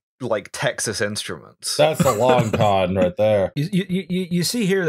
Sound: laughter

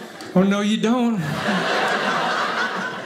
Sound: audience laughing

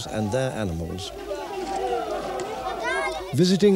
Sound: non-english speech

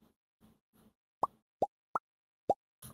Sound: popping noises

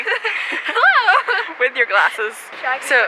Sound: laughs

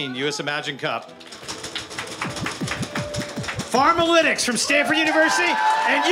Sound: applause

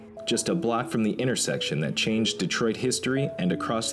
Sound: none

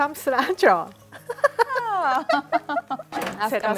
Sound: both laugh; speaking Amharic

